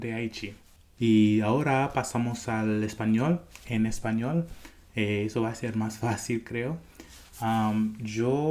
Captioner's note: Spanish